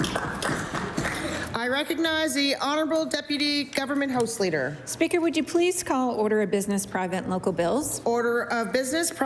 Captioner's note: applause